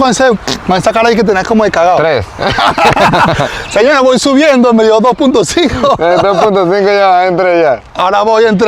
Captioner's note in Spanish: risas